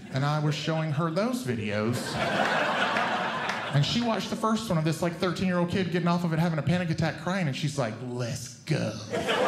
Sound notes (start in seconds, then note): 1.7 audience Laughing; 9.0 audience Laughing